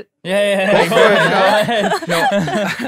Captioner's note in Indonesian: tertawa